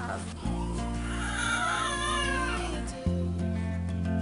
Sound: baby crying

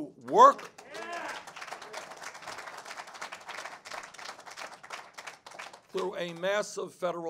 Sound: cheers and applause

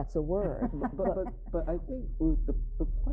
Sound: laughing

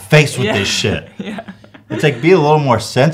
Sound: giggling

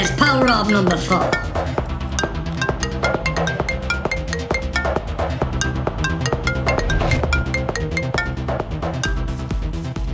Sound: mobile Phone Ring Tone

